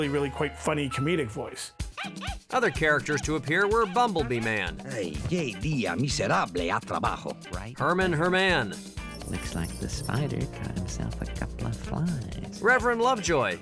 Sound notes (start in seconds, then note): 5.8 speaking spanish